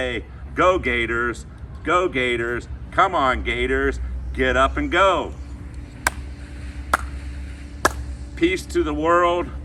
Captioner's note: chomp Chomp Chomp